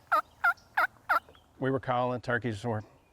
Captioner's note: turkey call clucking